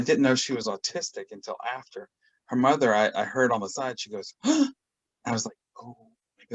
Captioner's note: gasp